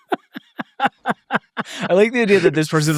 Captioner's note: laughing